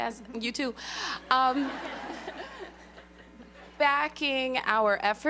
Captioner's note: laughter